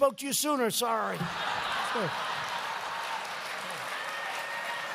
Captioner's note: laughter